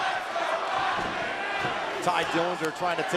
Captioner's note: fans chanting